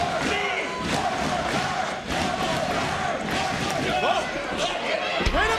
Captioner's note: audience cheering